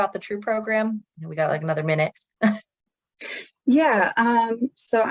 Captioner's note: chuckles